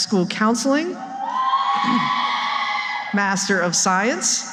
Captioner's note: cheering